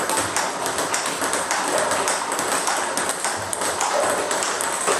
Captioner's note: ball ping pong hitting continues